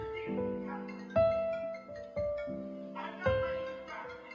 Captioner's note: the phone rings